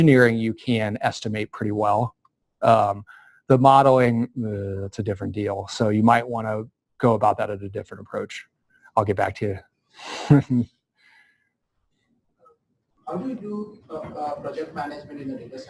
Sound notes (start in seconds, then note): 11.3 pause